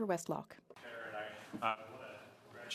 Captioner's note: speaking French